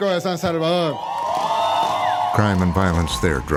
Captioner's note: cheering, fireworks popping